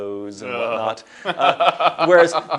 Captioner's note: laughs